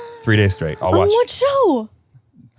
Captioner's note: gasps